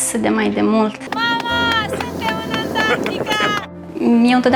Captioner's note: shouting from afar: “Mom, we are in Antarctica!”